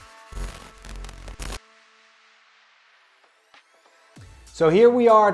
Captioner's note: electricity static crackling